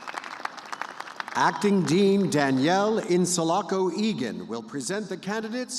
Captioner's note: applause